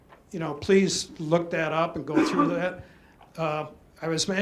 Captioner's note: background cough